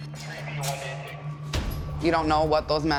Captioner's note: radio chattering